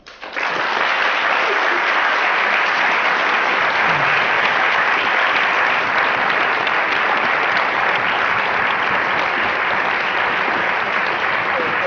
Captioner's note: applause